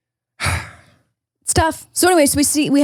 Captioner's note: sighs